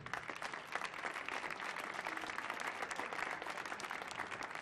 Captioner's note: audience clapping